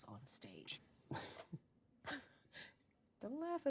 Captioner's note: chuckling